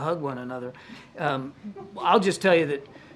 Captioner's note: laughter